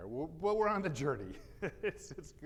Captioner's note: laughs